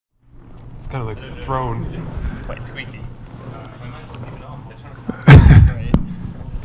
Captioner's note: indistinct conversation